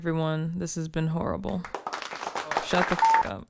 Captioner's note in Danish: Publikum klapper